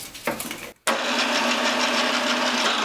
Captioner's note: rattling hum